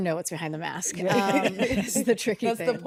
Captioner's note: all laugh